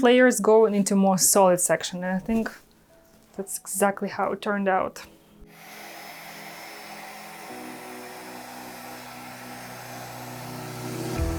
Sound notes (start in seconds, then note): 5.4 blower whirring